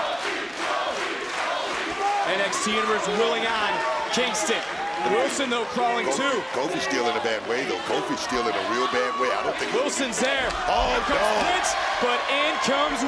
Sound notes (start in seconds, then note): 0.0 crowd chants "kofi"